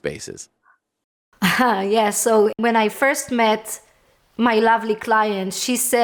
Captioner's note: laughing